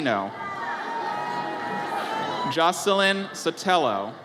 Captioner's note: audience cheers